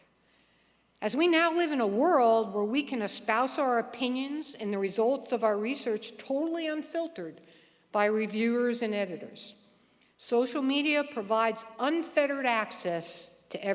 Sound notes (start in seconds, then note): none